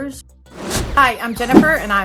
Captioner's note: air whooshes